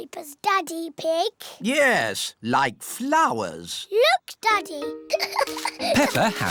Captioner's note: giggles